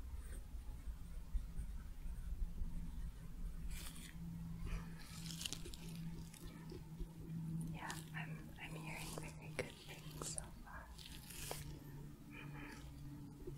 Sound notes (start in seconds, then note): 5.2 glove sounds, tapping